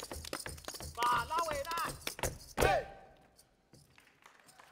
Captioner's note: speaking language other than English; audience applauding